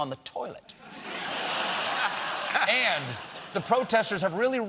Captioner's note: laughter